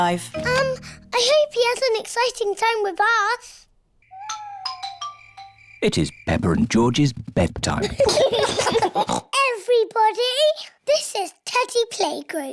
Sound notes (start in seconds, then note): 4.0 owls hoot; 7.8 both giggle